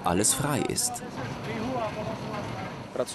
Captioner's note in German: Gespräch auf Tschechisch; tschechisch